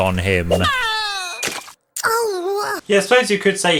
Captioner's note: yelps